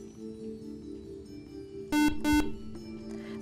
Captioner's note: buzzer